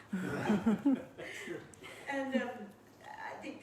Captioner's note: laughing